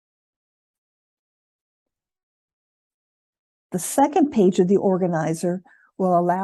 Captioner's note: silence